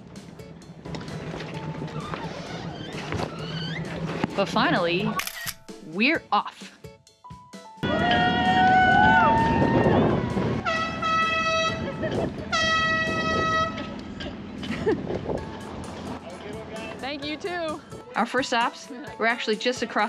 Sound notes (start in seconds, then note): 3.3 pinching sound; 10.5 horns beeping